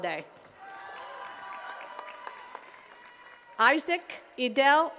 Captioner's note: attendees cheering and clapping